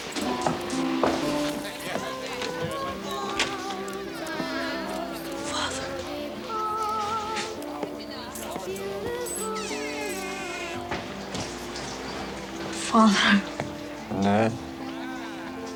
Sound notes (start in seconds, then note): 0.1 piano music continues; 9.4 door creaks; 9.5 door closes